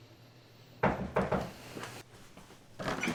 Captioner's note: sudden knock at the door